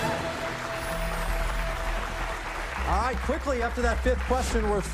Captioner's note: cheers and applause